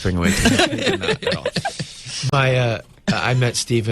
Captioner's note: Uzo and interviewer laugh